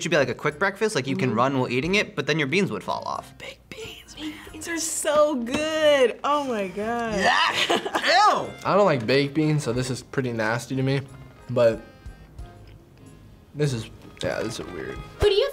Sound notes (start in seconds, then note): 7.1 laughs